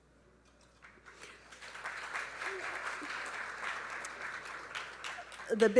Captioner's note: audience applauding